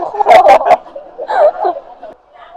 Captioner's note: laughs